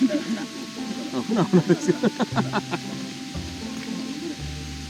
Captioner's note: laughter